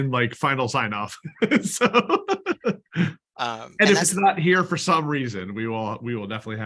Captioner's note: laughter